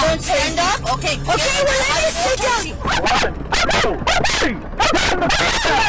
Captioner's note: suspect screaming